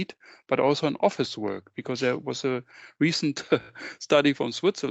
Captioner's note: chuckles